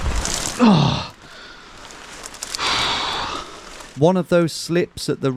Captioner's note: debris cracking; groans